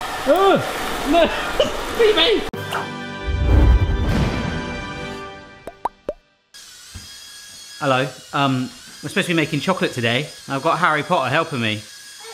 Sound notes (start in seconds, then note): 0.2 yelling; 2.6 dramatic instrumental music; 5.6 bubbles popping; 6.9 electronics whirring